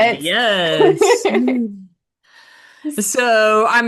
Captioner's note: laughing